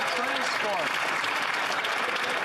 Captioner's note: some Applause